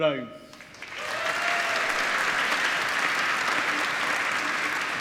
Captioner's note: applause